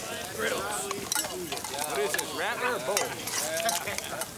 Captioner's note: men chattering